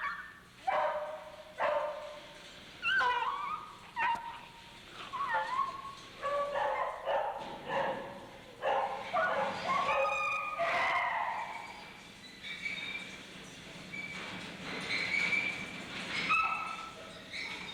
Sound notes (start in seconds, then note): 0.6 dog barking; 14.6 dog continues whining